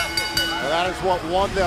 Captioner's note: bell ringing